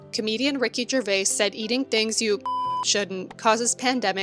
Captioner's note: beep